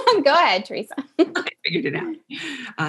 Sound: laugh

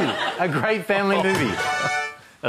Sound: laughter

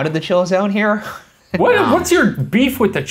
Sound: laughs

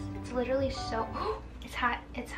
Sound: gasps

